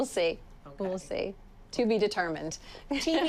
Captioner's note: laughs